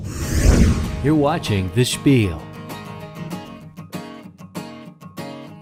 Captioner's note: voiceover